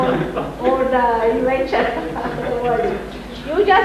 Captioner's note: Shri Mataji laughs